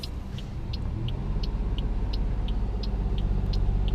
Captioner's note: none